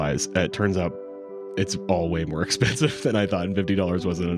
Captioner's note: chuckles